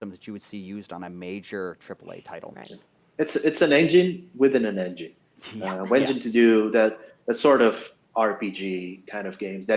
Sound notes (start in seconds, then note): 5.6 laughter